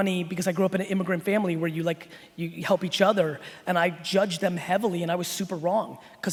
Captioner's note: none